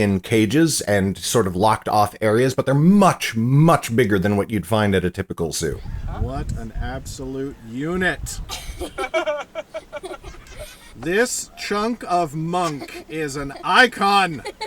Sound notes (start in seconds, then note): 8.4 laughing